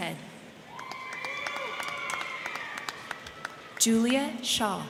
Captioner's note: crowd cheering; crowd clapping